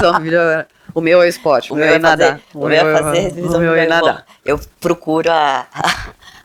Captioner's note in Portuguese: risos